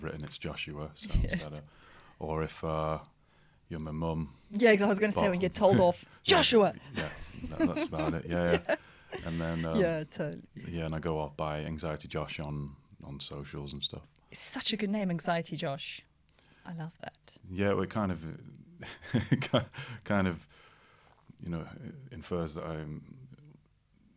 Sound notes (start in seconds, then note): 6.9 laughter; 18.8 laughter